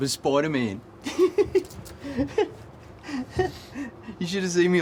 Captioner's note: laughing